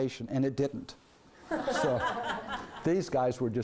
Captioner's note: laughing